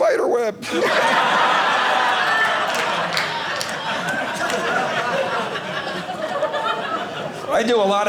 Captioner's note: audience laughing